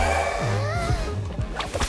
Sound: gasps

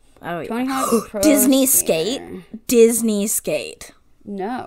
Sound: gasp

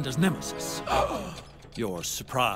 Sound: gasp

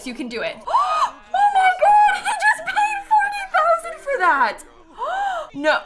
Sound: gasps

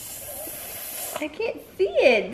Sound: gasps

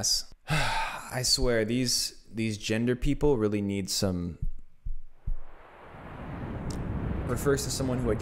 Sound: static noises

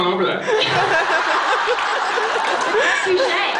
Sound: laughs

